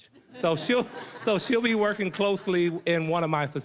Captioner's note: audience laughing